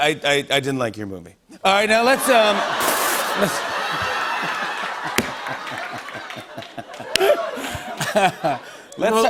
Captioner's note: laughter and applause